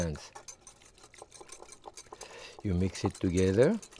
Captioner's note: whisk whisking